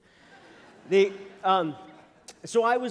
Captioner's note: laughter